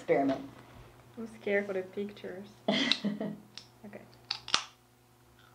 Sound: laughs

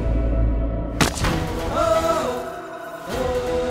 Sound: thump

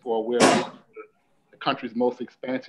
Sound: banging

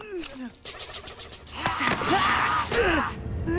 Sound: grunting

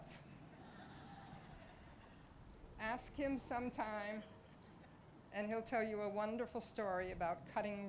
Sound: laughter

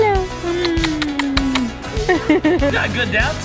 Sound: kissing; laughs

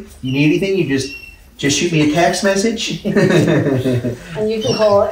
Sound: laughing

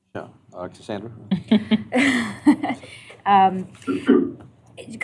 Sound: laughter

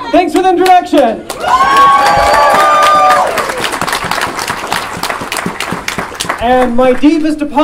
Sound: audience Applause and Cheering

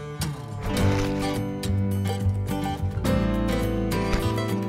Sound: dirt crunching; soft music

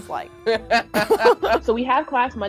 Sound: laughing

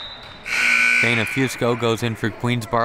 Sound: siren buzzing

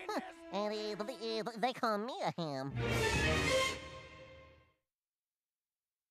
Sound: none

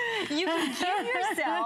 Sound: laughter

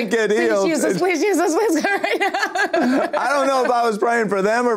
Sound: laughs

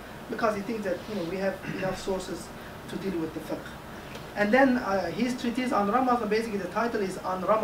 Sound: Arabic; Arabic

